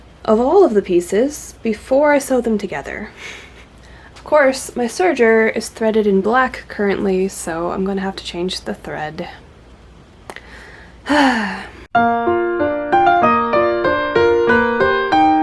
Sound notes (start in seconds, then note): 10.3 lip pop, sigh; 11.9 piano music